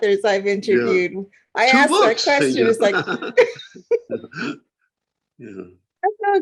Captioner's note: laughter